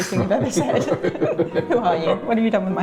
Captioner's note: laughing